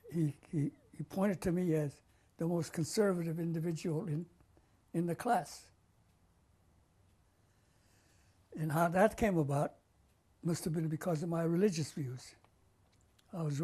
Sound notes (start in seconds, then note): 5.4 pauses for 3 seconds